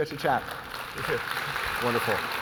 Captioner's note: audience applauding